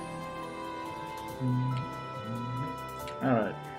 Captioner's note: humming along